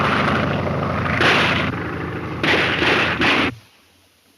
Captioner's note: gunshots